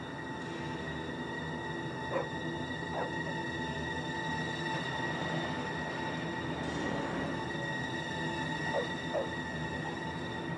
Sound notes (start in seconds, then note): 2.8 dog barking